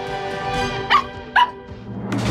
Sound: barking

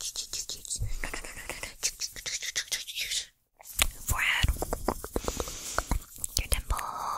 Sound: mouth Sounds

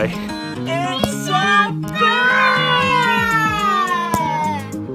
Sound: kids And Exclaiming Excitedly

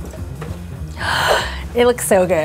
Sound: gasps

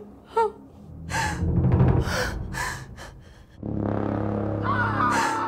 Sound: Sandra whimpering; distant male screams and gunshots

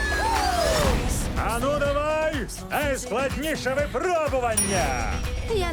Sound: bell dings

